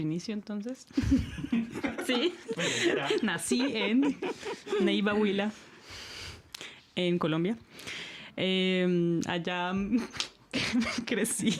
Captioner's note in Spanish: risas; resoplido